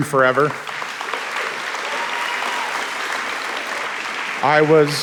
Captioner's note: audience applauding